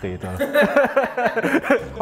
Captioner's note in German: Lachen